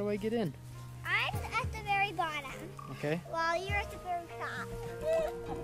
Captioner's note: laughing